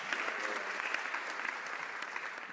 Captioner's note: some Applause